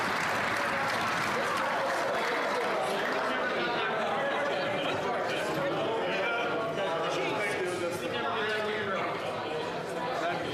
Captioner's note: some Applause